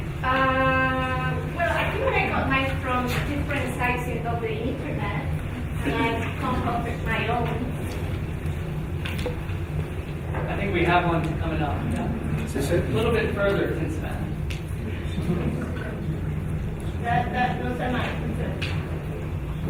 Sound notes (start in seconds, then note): 13.9 speaking faintly; 17.3 woman speaking faintly